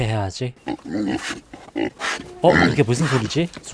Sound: A pig's noise is heard from somewhere

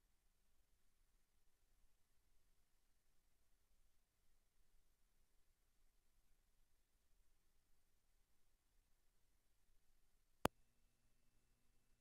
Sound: silence

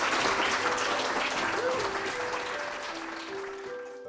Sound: audience applauding

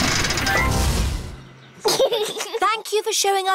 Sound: giggles

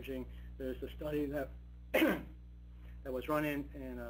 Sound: coughing

